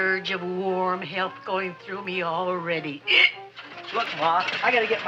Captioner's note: hiccups